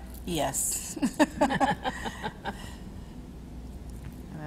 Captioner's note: laughs